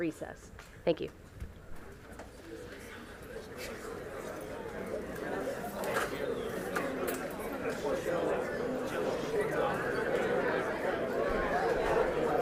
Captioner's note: audience chatter